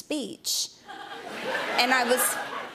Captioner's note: laughter